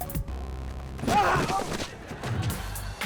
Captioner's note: man shrieking; audience laughing